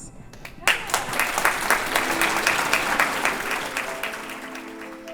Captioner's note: audience applauding